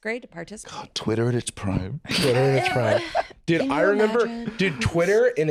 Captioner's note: dreamily